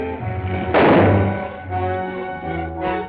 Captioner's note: gunshot